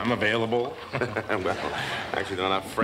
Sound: laughs

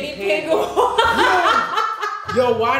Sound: laughter

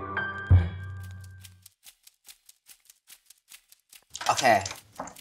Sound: timer ticking

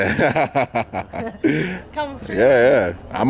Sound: host laughs

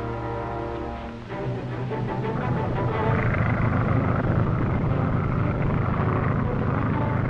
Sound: suspenseful music; engine droning

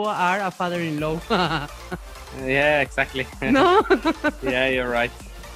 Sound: laughs

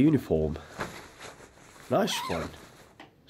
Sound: uniform being taken out of plastic wrapping, zipper going up and down

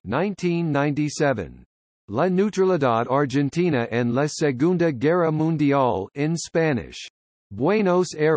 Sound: in Spanish

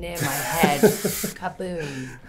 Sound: laughing

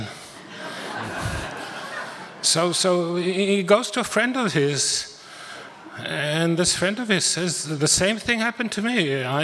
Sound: audience laughter

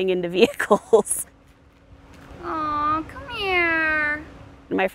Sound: laughing

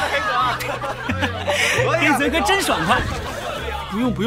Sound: laughs

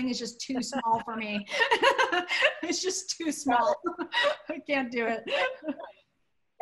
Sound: laughter

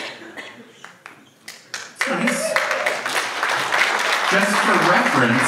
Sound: audience applauds

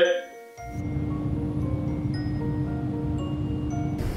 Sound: air whooshing

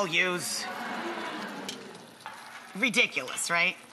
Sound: audience laughing

